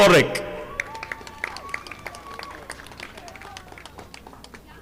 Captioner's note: audience applauding